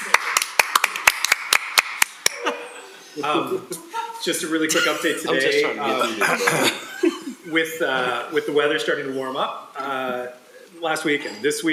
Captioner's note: laughing